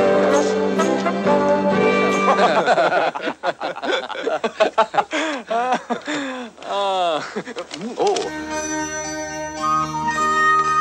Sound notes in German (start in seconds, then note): 0.0 mittelalterliche Musik; 2.2 kollektives Gelächter